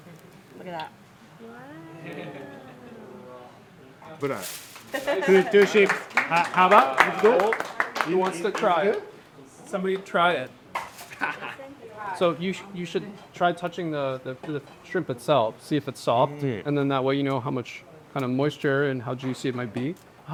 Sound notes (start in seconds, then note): 5.0 chef speaking in Japanese